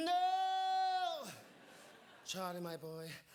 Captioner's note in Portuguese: audience laughing